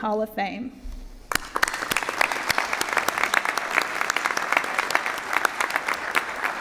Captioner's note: applause